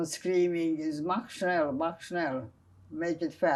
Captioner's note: german